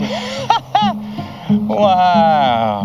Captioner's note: laughs